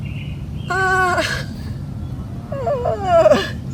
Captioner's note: groaning